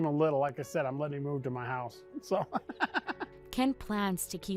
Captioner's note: laughing